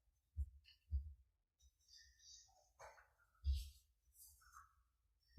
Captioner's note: faint footsteps thumping